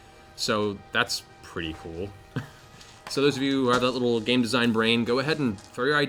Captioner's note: laughs